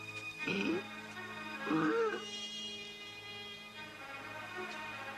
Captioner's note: Qahhar grunting